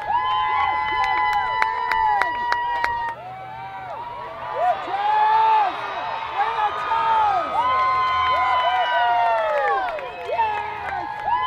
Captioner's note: applause